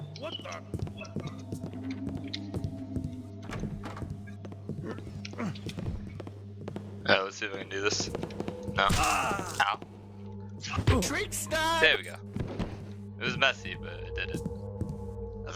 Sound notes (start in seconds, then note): 2.5 door barges open, rapid footsteps on wood; 12.4 Blackjack thuds